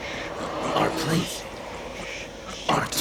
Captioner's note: Demonic voice